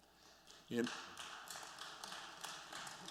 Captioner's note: applause